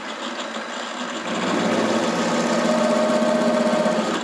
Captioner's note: louder drilling